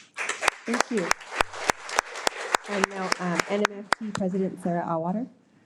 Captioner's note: audience applauding